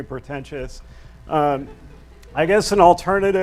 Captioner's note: audience laughs